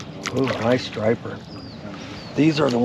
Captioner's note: background chatter; fish splashing